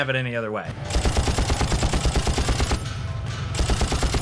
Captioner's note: gun firing